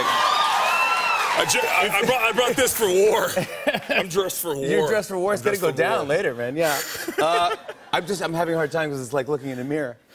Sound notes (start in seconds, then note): 0.0 cheers and applause; 3.2 laughs; 6.7 laughs; 9.6 laughter